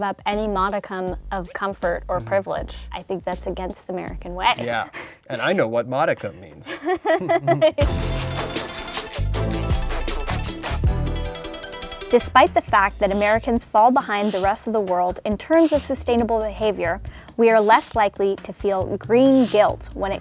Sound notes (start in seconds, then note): 6.6 laughter; 8.1 exciting music